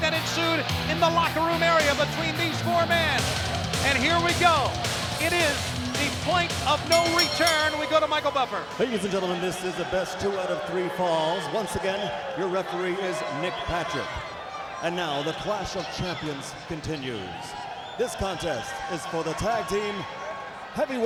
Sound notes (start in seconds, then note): 8.4 bell ringing